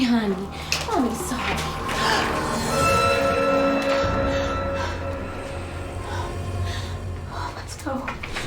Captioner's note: gasps